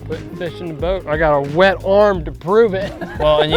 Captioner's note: laughs